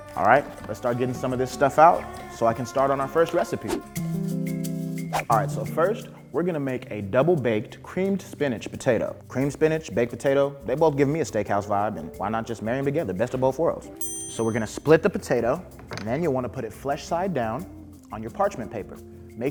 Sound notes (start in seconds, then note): 14.0 ding